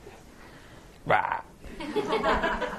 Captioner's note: laughter